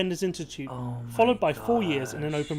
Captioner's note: voice-over